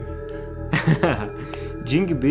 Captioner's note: laughs